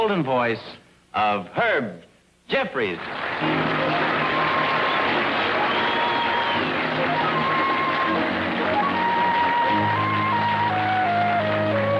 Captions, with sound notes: the golden voice of Herb Jeffries. (audience applauding) (audience whistling) (relaxing instrumental music)